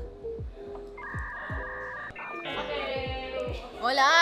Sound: computer loading sound

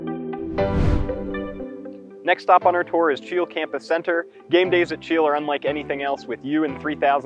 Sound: swooshing noise

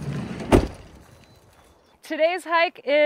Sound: door thuds

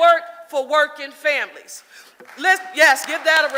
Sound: audience applauding

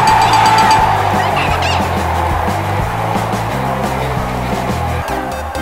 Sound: guitar music; yelling

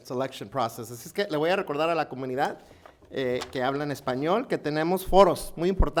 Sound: speaking in foreign language

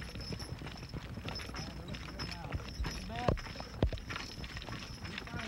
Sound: hooves pounding

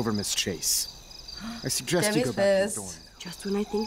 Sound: gasps

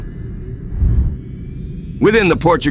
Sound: woosh sound

